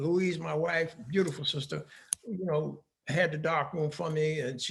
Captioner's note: none